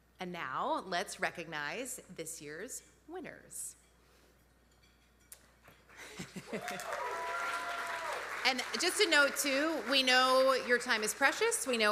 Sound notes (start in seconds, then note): 6.0 laughing; 6.4 audience applauding